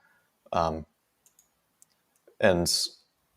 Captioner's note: mouse clicking